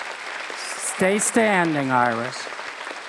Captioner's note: applause